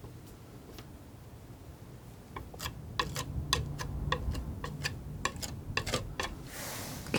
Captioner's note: tapping